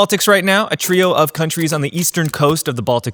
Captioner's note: keyboard clicking